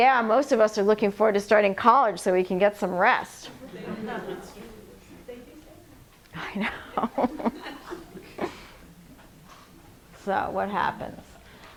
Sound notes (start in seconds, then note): 3.6 laughter; 6.4 laughs